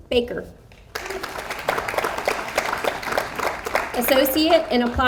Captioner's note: audience applauds